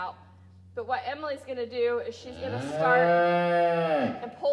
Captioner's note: cow moos